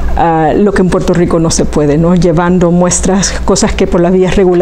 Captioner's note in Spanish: none